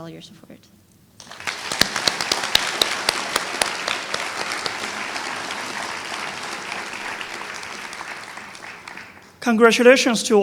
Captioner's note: applause